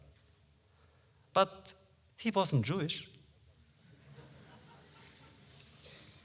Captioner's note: laughter